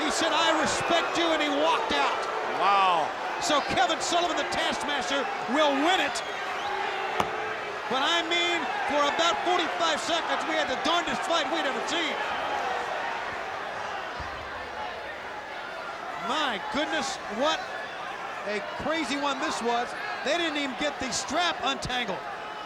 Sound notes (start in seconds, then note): 6.6 crowd clamoring; 13.8 crowd clamoring